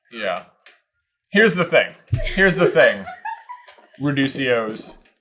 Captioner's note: background giggling